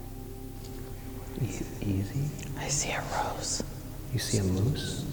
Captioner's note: whispers